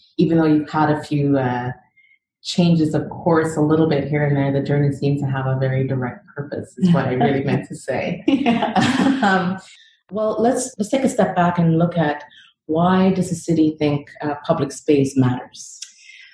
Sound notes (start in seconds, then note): 8.4 laugh